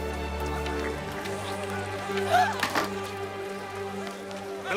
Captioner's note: gasps